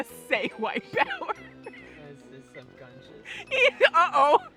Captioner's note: laughing